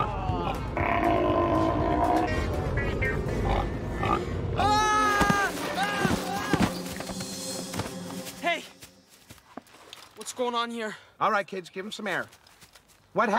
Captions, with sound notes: [ Screaming ] Hey! What's goin' on here? All right, kids, give him some air. What happened?